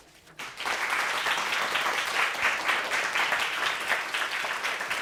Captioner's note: audience applauds